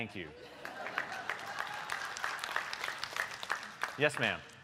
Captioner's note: applause